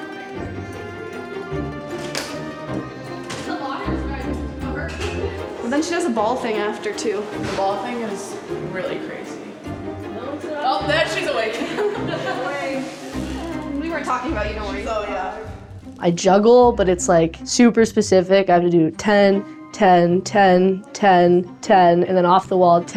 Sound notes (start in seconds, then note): 12.9 laughing